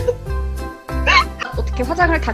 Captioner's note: again laughs